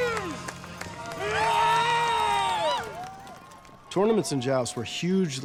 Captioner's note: yelling